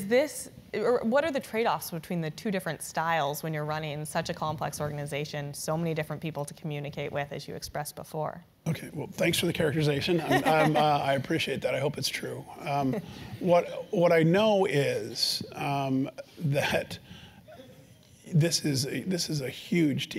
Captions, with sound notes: What are the trade offs between the two different styles when you're running such a complex organization? So many different people to communicate with as you expressed before? >> Okay, well thanks for the characterization. >> [LAUGH] >> I appreciate that. I hope it's true. What I know is that, this is huge